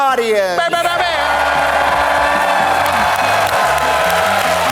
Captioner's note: audience cheers